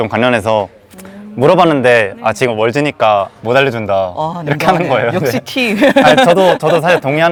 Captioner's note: laughs